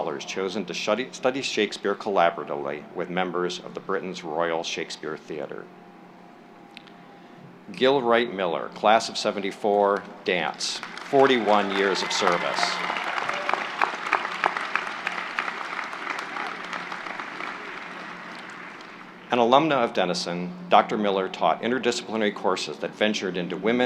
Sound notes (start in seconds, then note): 10.4 applause